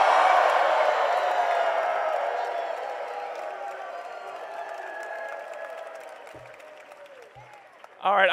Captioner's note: cheering and applause